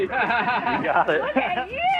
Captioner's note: laughs